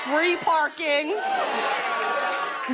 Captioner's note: all exclaim in agreement